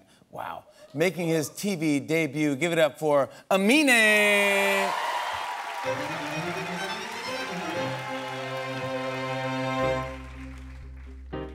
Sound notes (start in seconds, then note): 4.6 applause